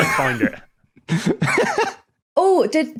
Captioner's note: laughs